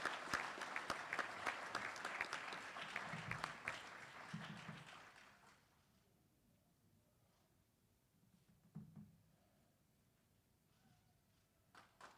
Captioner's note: applause